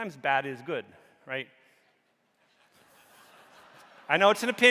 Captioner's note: audience laughing